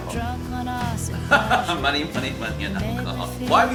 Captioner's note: laughing